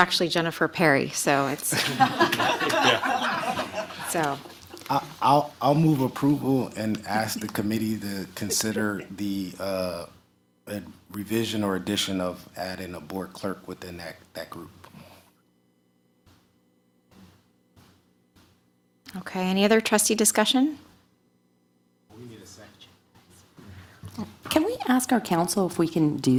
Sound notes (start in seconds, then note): 7.3 laughter